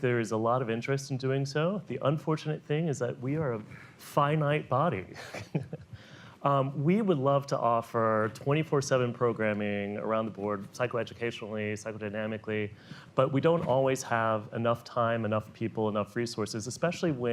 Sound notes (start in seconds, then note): 5.2 laughs